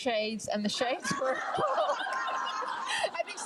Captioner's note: laughs with crowd